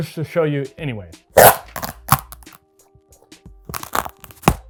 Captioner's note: boots ripping